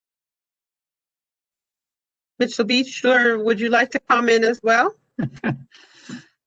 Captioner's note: laughter